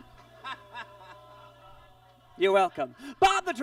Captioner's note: Bob laughs